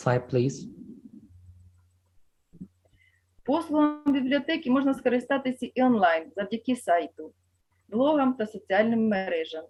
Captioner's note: foreign Language